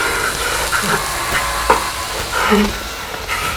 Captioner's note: crunching, grinding continues